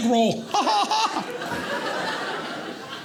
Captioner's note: audience laughing